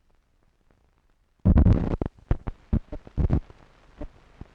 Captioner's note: static crackling